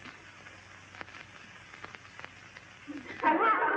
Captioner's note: kids laughing